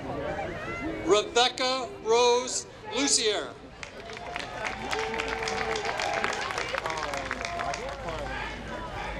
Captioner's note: applause